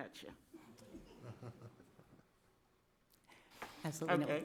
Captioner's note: board member chuckles softly